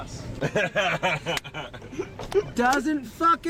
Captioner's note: band member laughs